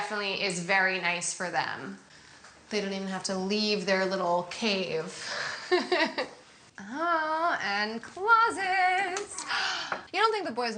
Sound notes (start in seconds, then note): 6.6 laughs